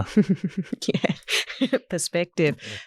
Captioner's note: laughs